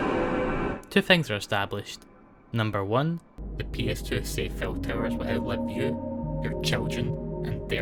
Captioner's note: demonic voice